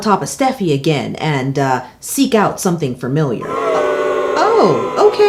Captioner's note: crowd booing